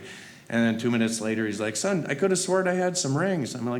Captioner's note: none